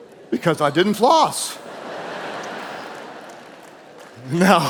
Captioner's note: audience laughing